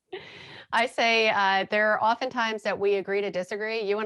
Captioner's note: laughing